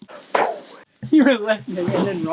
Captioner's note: chalk noises